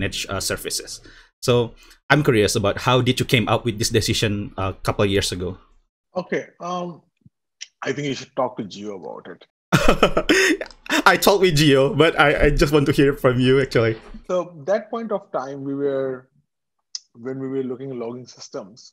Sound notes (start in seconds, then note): 9.8 laugh